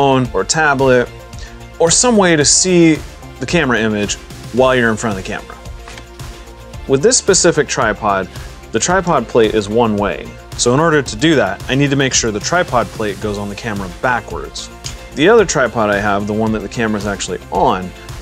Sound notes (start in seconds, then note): 14.6 tripod click